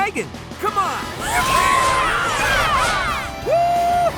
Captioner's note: cheering